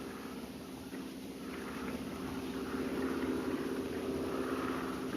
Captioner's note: airplane engine roaring